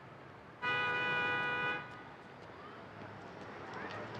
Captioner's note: car honking